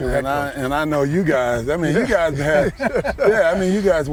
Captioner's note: laughter